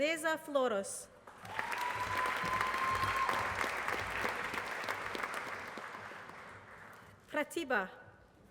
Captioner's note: applause